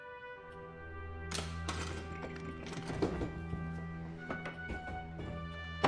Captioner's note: latch clicking; dramatic music